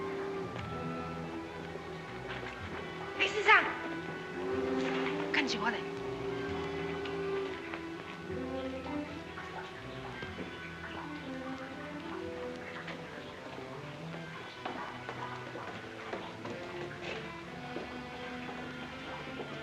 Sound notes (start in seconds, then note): 0.0 soft ominous music; 3.1 speaking in Chinese; 6.4 soft ominous music